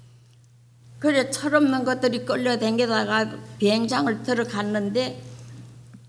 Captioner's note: speaking foreign language